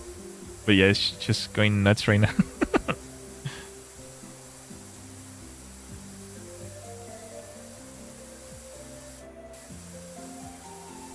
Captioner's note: laughter